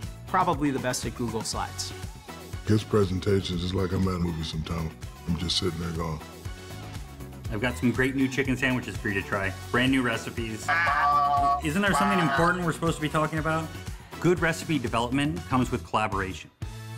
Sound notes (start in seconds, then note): 11.3 shouting